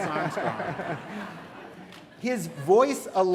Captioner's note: laughter